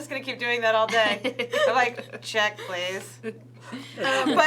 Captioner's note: laughs